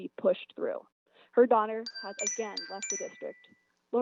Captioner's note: chime